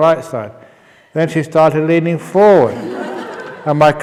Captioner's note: laughs